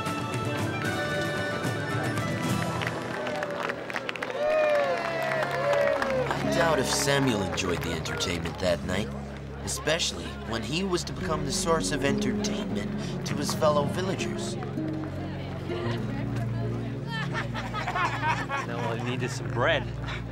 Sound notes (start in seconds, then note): 2.9 applause; 17.0 laughing